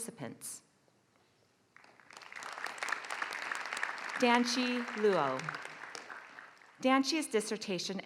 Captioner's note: applause